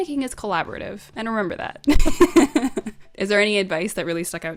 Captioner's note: laughs